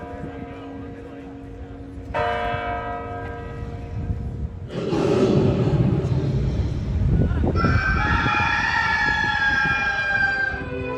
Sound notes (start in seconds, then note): 4.7 Lion Roaring; 7.6 rooster Crowing